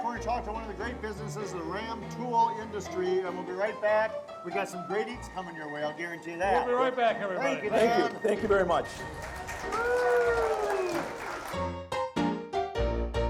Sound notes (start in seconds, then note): 8.8 audience applauding and cheering